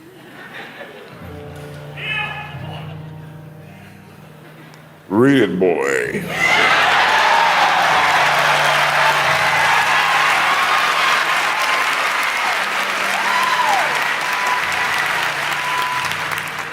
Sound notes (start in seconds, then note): 0.0 audience laughing; 6.7 audience cheering